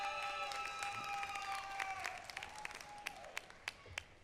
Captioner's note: applause